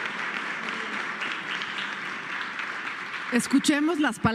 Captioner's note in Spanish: aplausos